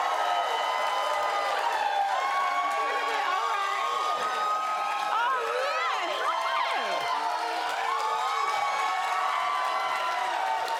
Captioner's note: cheering and applause